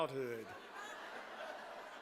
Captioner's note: laughter